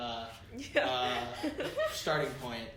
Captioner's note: laughter